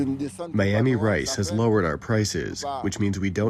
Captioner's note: through translator